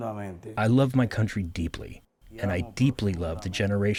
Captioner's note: through translator